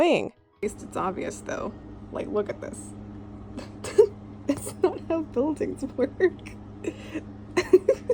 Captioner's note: chuckles; laughs